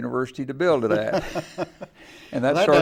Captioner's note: laughing